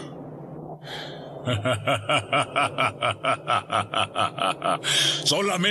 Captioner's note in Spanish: risita malvada